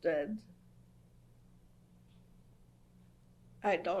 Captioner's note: pauses for 3 seconds